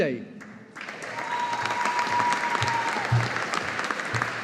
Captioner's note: audience applauding